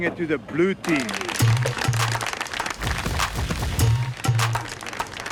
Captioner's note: Blue Team clapping